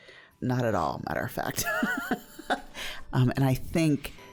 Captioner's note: laughing